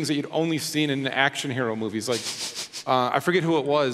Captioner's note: chuckles